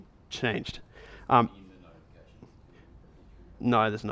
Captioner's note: voiceover